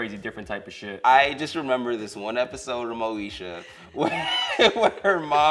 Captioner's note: laughs